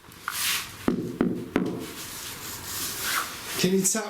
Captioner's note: taps on wall